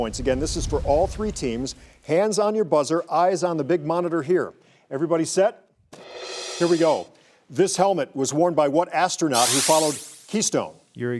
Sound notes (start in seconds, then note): 6.0 dramatic cymbal; 9.4 electronic buzzer sounds